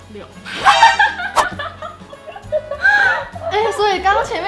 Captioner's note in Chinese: 爆笑